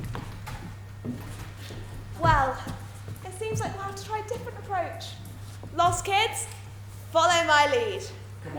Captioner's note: none